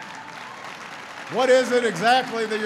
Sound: applause

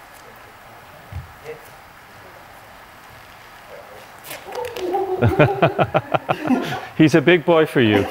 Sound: laughing

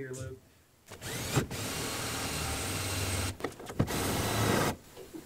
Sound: drilling

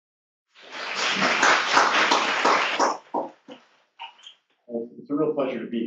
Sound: applause

